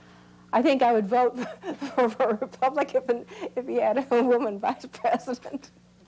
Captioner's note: laughs